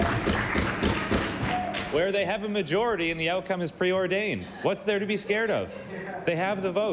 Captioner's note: applause